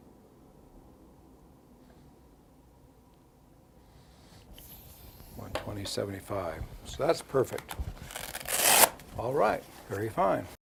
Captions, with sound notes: 120/75, so that's perfect. (cuff fabric releasing) All right, very fine.